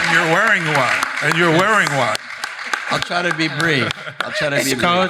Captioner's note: audience applauding